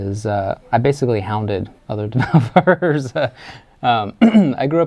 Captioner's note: laughs